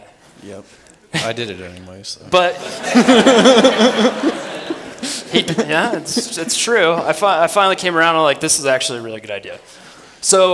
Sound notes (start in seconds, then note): 2.5 laughs